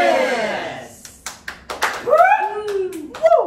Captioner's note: claps